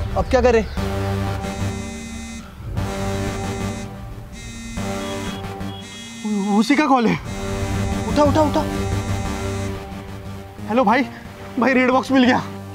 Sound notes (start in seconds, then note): 1.6 phone ringing